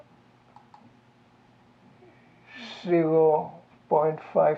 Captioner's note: mouse clicking